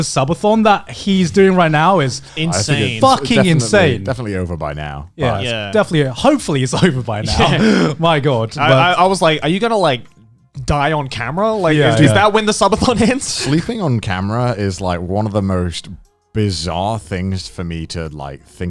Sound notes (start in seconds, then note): 7.2 Joey laughing